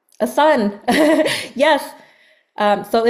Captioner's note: laughs